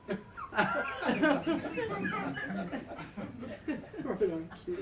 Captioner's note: audience laughs